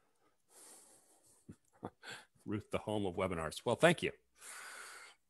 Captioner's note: chuckles